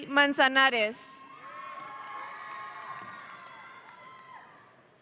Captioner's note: audience cheering